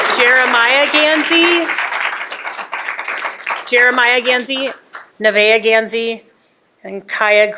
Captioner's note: applause